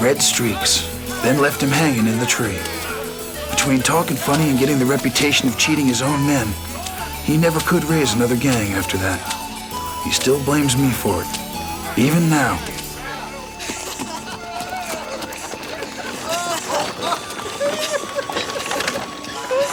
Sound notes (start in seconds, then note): 14.2 Ned and Crecencio laugh; 14.2 warm music